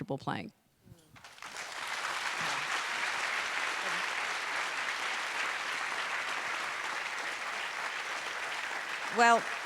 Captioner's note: applause